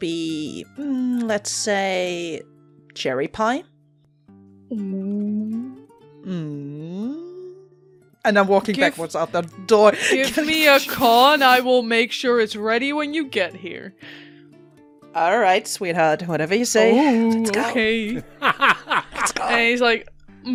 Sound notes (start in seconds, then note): 10.1 laughs; 16.8 whispers; 18.0 laughter